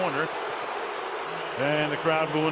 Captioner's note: booing